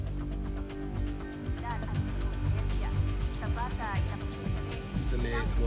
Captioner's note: speaking Spanish